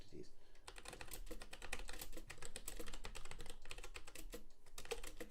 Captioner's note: keyboard clacking